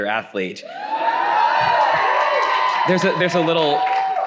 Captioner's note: audience applauding